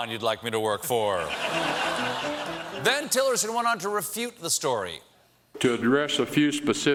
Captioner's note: laughter